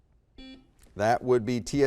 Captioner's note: beep